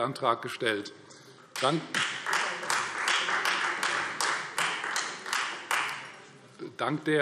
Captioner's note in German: Beifall Freie Demokraten